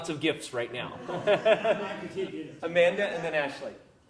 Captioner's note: laugh